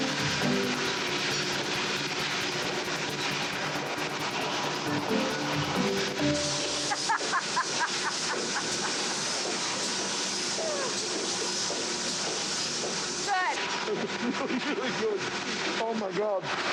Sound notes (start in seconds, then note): 6.8 laughs